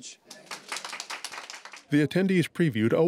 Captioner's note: applause